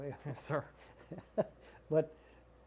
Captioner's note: laughter